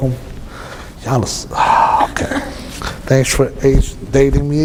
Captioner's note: he Sighs and Laughs